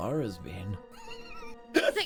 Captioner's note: laughter